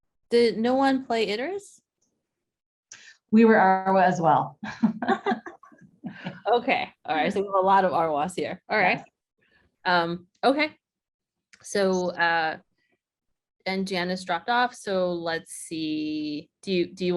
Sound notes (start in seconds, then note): 4.6 laughter